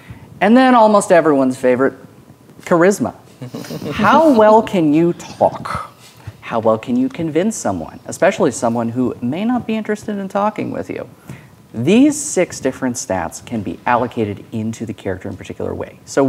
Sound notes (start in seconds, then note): 3.4 players chuckling